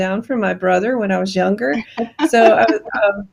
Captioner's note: giggling